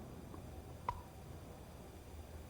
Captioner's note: pop